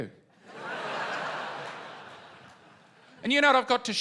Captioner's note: laughter